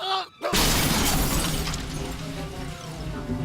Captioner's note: crash